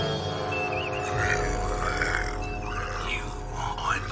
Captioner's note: Tressaurian alien speech